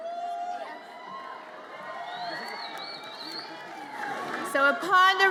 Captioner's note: audience cheers